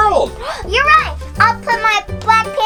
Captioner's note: gasp